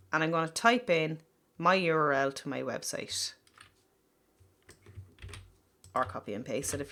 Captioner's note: typing sound